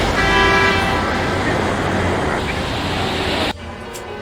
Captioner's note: horns honking; eerie music